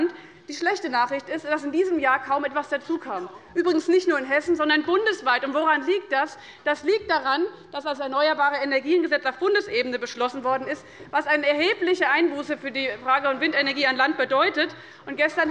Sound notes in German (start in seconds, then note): none